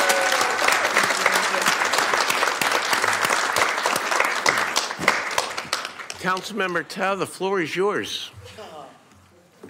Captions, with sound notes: SO CAN WE GIVE A BIG HAND TO OUR NEWEST CITY COUNCIL MEMBER. NEWEST CITY COUNCIL MEMBER. [APPLAUSE]